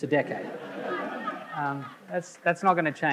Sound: audience laughing

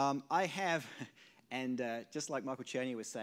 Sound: laughs softly

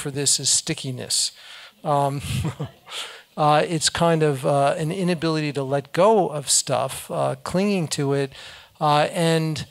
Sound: laugh

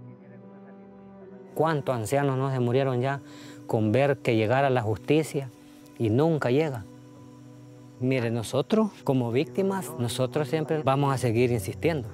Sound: speaking Spanish

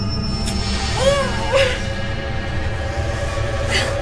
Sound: grunting

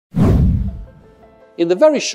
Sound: whoosh Sound

